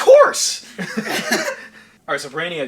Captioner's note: laughing